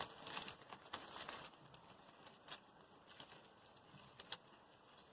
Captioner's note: straw rustling